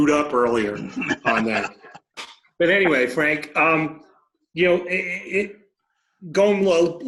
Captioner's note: laughs